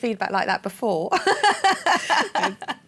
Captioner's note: laughter